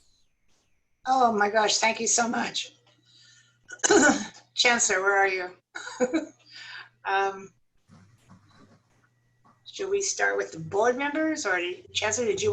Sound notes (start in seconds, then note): 5.8 laughter